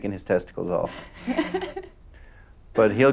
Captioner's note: laughing